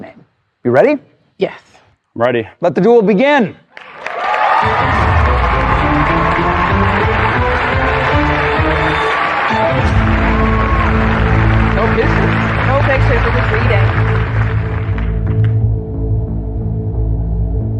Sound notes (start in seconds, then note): 3.7 cheering and applause; 3.7 dramatic music